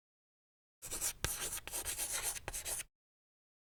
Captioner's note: chalk scratching